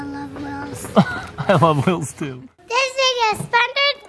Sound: laughs

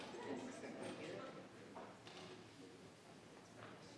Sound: people chattering

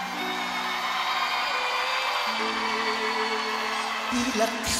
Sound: aplausos

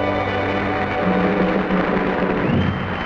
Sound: audience clapping; audience cheering

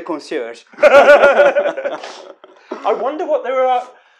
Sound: laughing

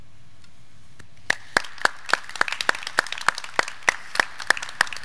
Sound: graduands clapping

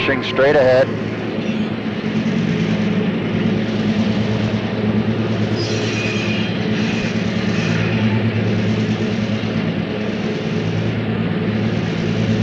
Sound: sound of the train moving

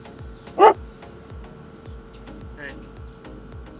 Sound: dog barks

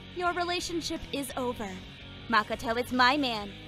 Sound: none

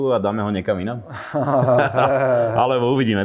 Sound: nervous laughter

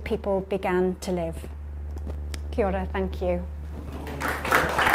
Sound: applause

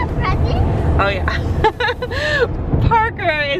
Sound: laughs

